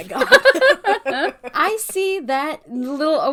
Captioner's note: laugh